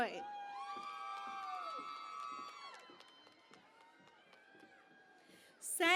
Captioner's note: cheering and Applause